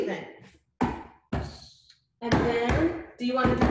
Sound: slapping table

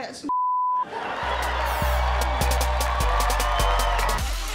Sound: laughter

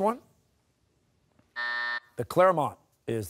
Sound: buzzer

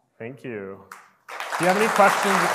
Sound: audience applauds

